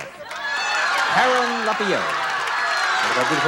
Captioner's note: shouts and cheers